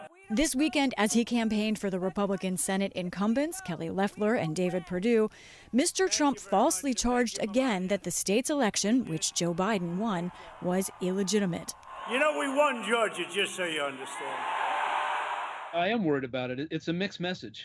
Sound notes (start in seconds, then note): 13.6 cheering and applause